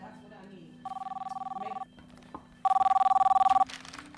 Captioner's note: phone ringing